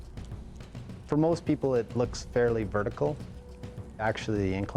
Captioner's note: voiceover